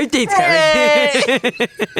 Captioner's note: whines; laughs